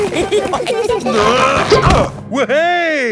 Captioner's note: all giggling; grunting